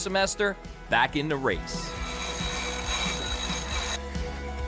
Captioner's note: rigging grates